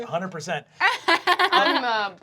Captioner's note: laughing